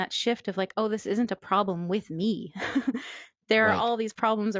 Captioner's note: laughs